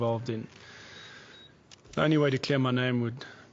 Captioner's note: sighs